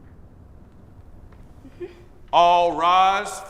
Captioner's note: Phoebe laughing nervously